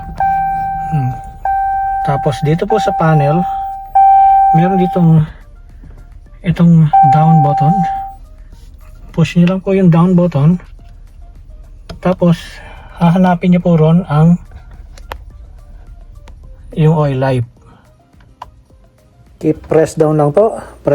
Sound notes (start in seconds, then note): 0.0 another beep; 0.0 beep; 0.0 continous beeping; 4.6 beeping